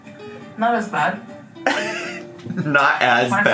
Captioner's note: laughs